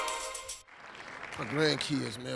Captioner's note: audience clapping